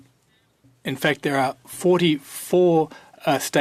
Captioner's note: speaking French